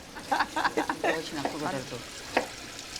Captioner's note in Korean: 웃음 소리